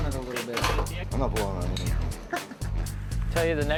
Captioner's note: marine laughs